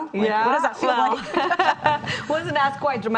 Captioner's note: laughing